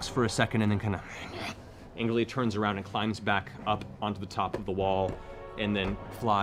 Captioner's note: snarls